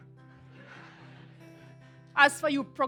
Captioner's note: laughter